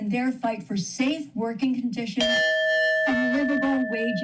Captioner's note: bell rings